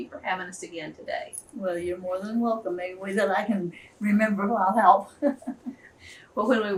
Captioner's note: laughs